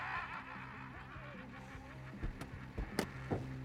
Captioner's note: laughs; sighs